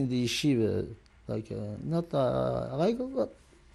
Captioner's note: non-english